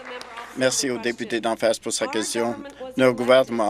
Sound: applause

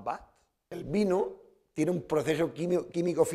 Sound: speaking spanish

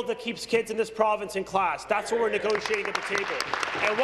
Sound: applause

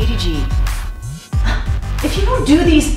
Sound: gasps

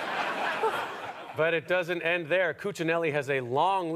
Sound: audience laughter

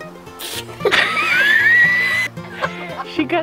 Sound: more laughter

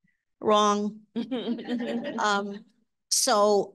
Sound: audience laughing

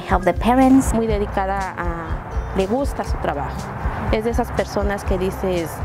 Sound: speaks in foreign language

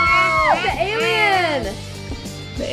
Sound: high pitched screams

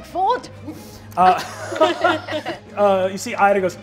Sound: all laugh

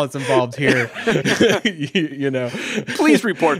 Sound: laughing

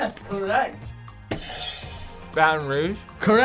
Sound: buzzer rings

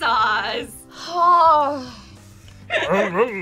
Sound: sighs

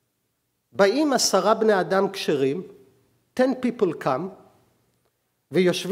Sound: speaking hebrew

